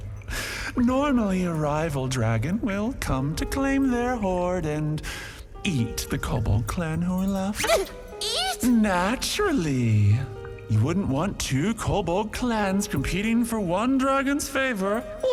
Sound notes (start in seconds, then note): 7.2 panicked squeak